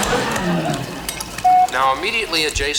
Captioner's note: beep